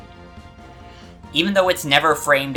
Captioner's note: breathe